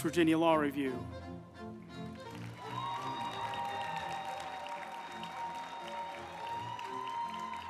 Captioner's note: uplifting music; group applauding